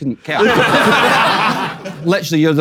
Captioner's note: people in room laughing